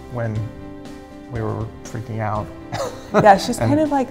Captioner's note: laughs